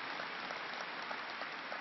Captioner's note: applause